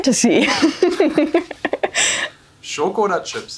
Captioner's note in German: beide lachen